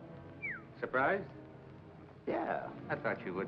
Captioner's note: whistles